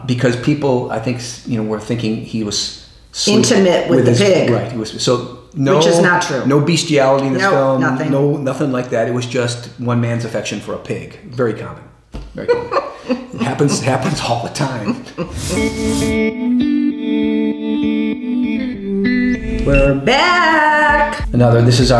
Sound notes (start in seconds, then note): 12.4 laughs